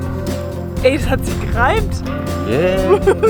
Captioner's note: only in German